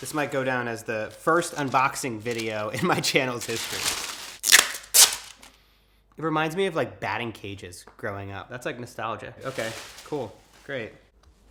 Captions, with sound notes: This might go down as the first unboxing video in my channel's history. (tape rasps) It reminds me of like batting cages, growing up. That's like nostalgia, okay cool, great.